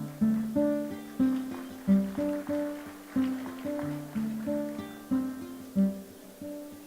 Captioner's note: applause